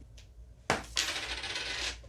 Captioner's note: coin flip